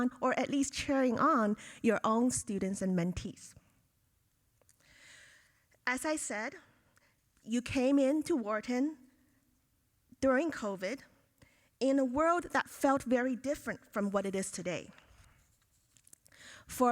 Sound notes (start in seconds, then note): none